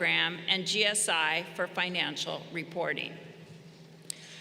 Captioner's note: none